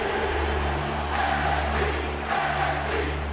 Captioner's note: cheers and applause; fans chanting